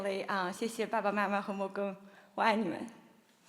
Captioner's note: speaking Chinese